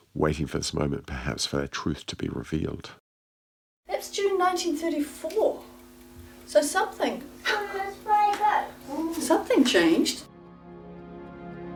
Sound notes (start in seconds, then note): 7.4 child chatters